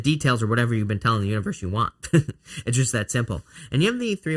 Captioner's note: chuckling